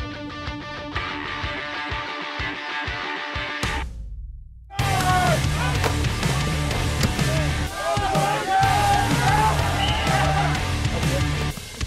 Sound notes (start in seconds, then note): 5.0 grunting